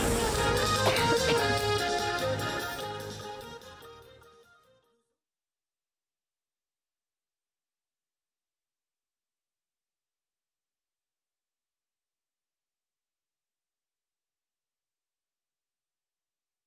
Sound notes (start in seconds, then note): 0.0 uplifting music; 7.2 silence